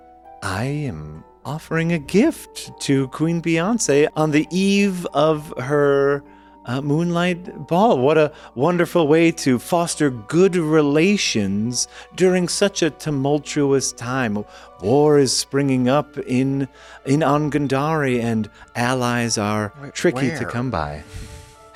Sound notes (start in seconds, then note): none